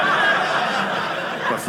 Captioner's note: audience laughing